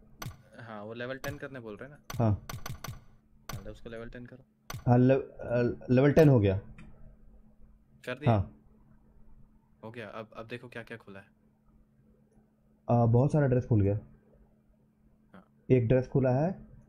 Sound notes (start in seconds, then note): none